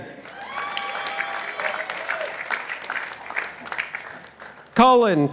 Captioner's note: participants applauding